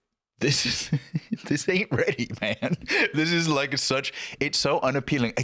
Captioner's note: laughing